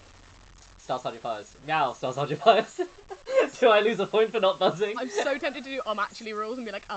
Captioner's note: laughing